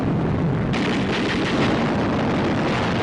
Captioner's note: gun fires